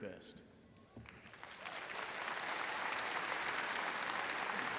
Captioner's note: audience applauding